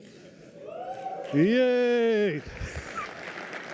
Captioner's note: applause